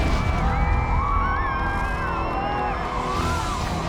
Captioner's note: cheering